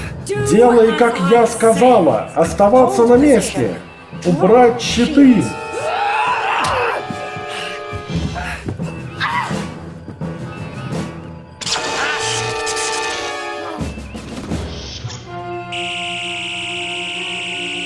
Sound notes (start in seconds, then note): 0.1 echoing voice; 9.1 uhura screams